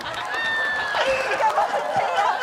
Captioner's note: laughing